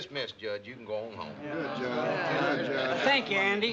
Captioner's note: residents murmuring